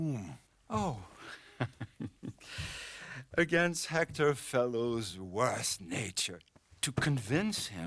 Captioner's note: laughs